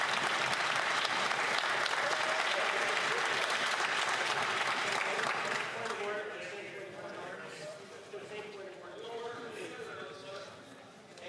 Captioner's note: some Applause